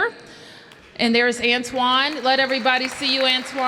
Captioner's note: applause